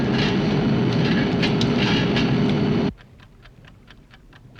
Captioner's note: ticking